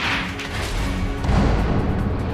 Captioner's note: gavel bangs